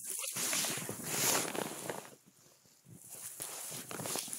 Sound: sounds of tree dragging on the snow

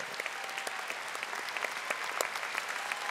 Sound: audience applauding

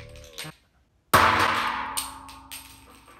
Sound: bean rattling; bean twanging; bean clacking

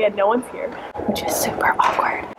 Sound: whispers

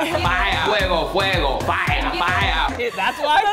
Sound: speaking in foreign language

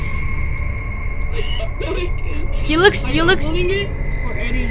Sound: laughs

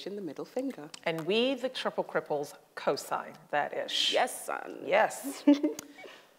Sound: laughs

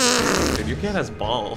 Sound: fart puffs loudly

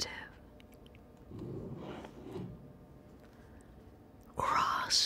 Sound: smooth scraping of pen on paper

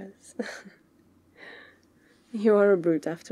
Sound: laughs

